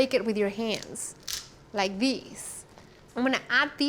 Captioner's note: crack